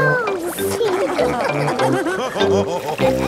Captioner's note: all laughing